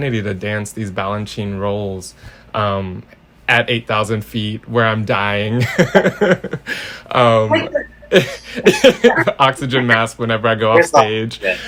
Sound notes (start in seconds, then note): 8.0 laughs